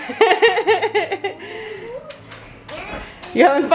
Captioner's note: laughs